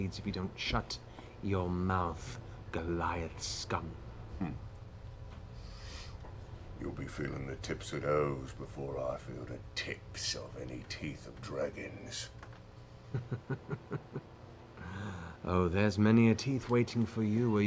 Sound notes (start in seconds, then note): 13.1 laughing